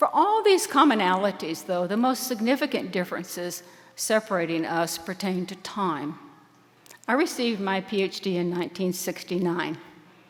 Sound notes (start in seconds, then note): none